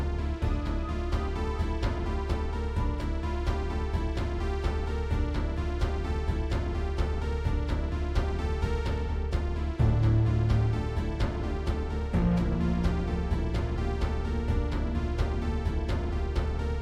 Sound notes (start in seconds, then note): none